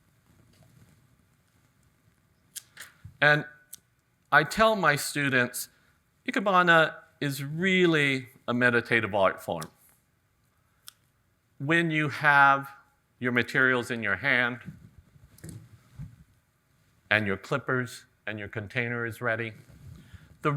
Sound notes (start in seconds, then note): none